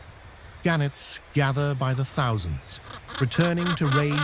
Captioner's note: crow cawing